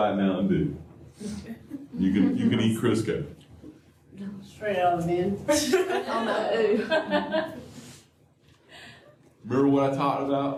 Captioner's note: laughter